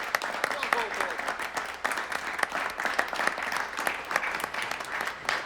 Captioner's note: speaking in foreign language